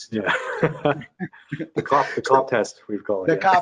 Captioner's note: laughing